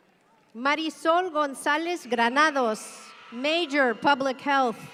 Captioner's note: audience cheering